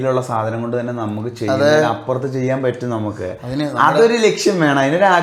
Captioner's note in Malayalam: ചീറ്റുന്നു